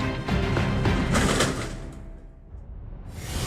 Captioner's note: crunch